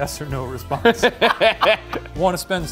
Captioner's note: laugh